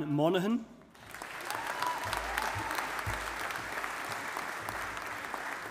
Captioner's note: audience applauding